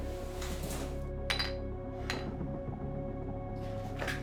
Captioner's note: metal against glass